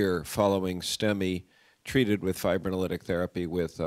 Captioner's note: none